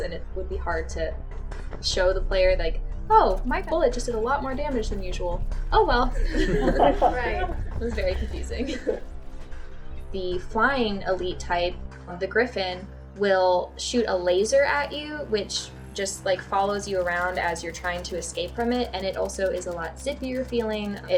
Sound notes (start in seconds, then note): 6.1 laughter